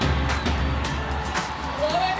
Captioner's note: cheering